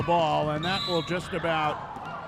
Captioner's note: referee whistling